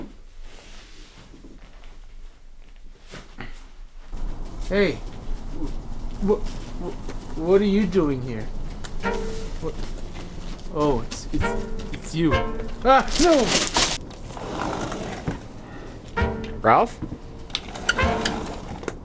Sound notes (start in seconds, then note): 14.8 door opens